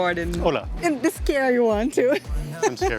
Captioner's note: in Portuguese